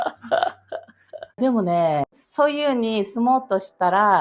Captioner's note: laughs